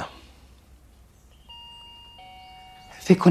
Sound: doorbell ringing

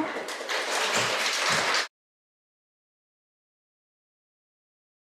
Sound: audience applauding

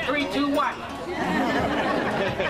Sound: audience Laughs

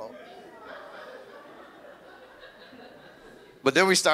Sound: audience laughs

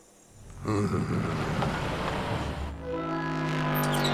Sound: Doc groans

